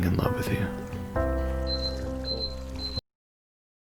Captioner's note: beeping